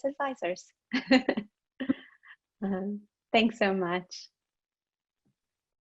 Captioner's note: laughs